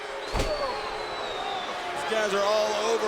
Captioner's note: crowd boos